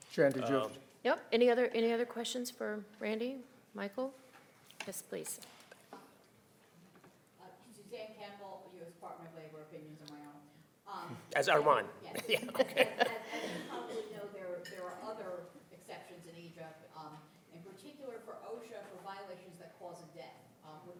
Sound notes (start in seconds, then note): 12.1 laughing